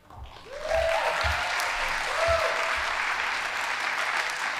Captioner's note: audience applauding